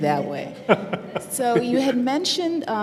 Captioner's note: laughter